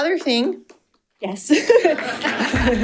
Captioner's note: chuckles; audience applauding; light applause